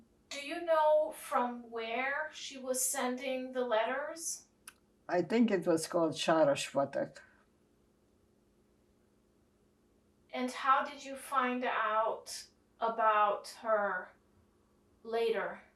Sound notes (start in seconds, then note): 6.5 non-english